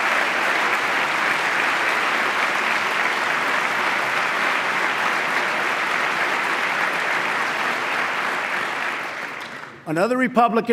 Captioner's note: applause